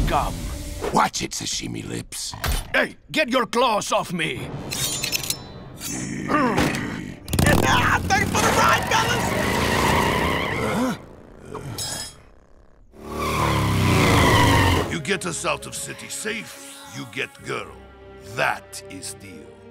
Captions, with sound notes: Watch it, sashimi lips! Ey! Get your claws off me! Haha! Thanks for the ride, fellas! Huh? [clanking] [screeching] You get us out of city safe. You get girl. That is deal.